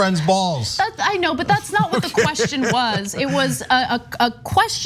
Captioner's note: laugh